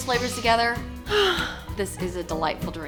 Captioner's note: sighs